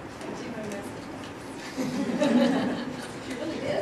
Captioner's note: laughter